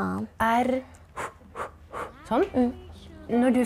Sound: pant, pant

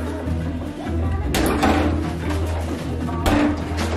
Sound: basketball shooting

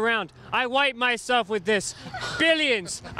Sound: laughing

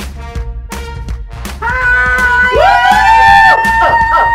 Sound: cheering

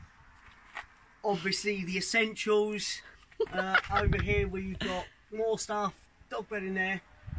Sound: laughs

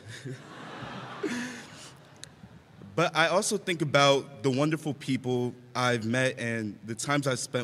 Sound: laughter

